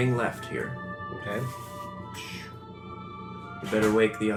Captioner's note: whistling